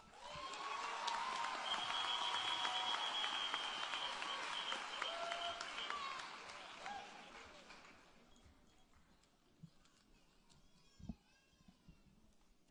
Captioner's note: applause